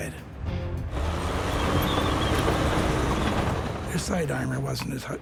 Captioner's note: tank revving